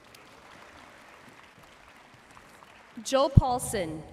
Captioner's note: audience cheering and applauding